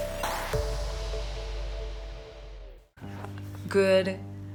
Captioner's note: soft music; whooshing